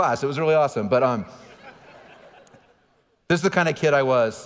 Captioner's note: audience laughing